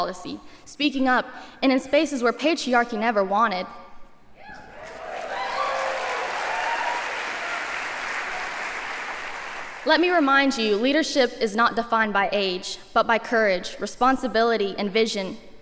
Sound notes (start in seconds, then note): 4.4 cheering; 4.6 applause